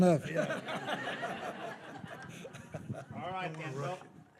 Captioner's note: attendees laughing